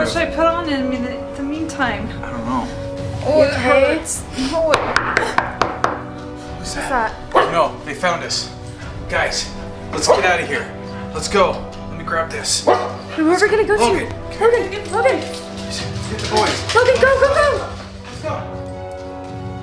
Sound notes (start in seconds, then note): 4.9 urgent knocking; 5.8 mom gasps; 12.6 dog barks